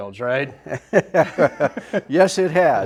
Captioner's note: all laugh